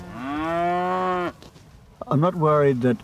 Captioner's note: cow bellows